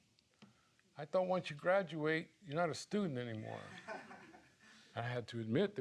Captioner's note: audience laughing